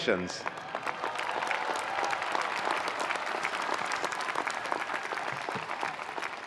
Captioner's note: attendees applauding; attendees cheering